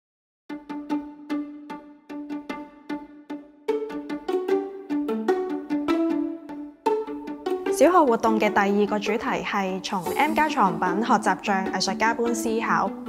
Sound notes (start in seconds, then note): 0.5 vibrant music begins; 7.7 Cantonese